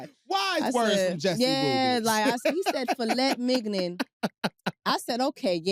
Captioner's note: laughs